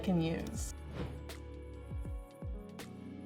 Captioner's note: wind whooshes; soft R&B music